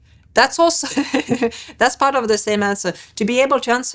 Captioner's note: laughs